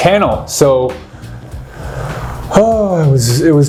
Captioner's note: sighs